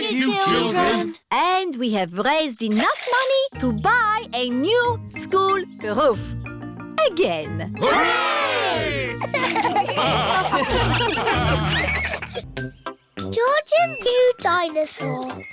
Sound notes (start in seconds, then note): 9.0 laughter